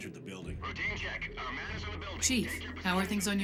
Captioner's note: over comms